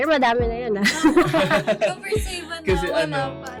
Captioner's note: laughs